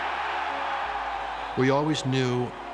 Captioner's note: crowd cheering